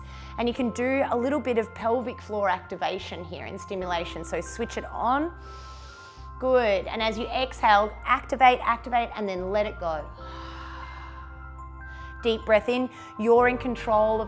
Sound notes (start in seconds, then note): 5.4 inhales; 10.2 exhales